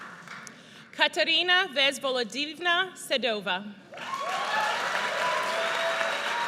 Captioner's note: audience cheers